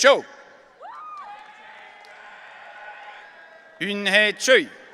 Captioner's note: audience cheering